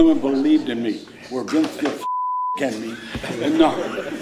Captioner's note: beep